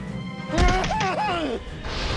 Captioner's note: whimpers